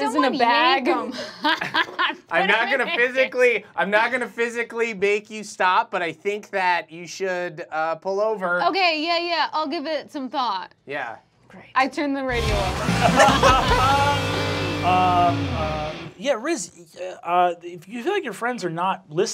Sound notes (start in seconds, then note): 1.2 laughs; 12.3 rock music; 12.5 laughing